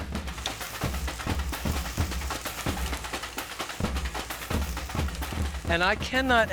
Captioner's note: bread sizzling; upbeat music